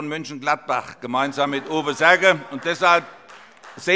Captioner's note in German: Vereinzelter Beifall